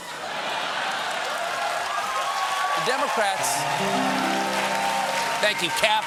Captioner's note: cheers and applause